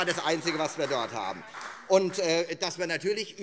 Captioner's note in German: Beifall Freie Demokraten